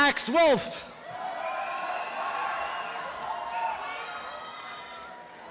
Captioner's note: applause and cheering